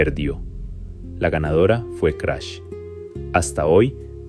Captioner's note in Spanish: Crash